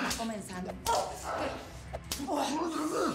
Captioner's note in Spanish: quejidos